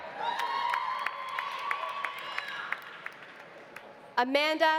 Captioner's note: audience cheering; audience applauding